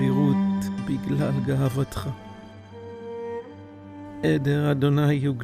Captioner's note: speaking in Hebrew